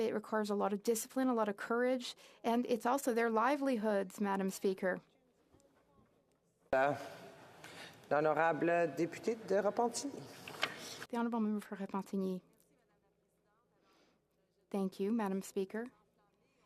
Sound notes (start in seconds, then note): 13.3 speaking French